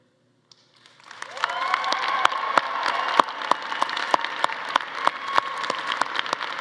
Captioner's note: attendees applauding and cheering